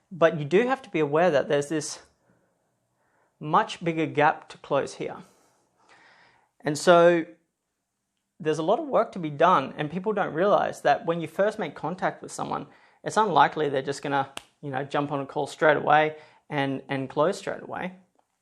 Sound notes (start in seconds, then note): 14.3 clicks fingers